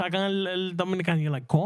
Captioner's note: speaking In Foreign Language